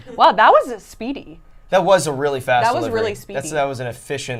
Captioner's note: none